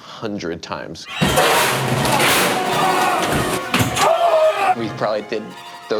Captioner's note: man groaning